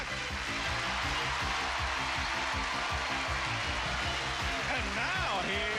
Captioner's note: cheers and applause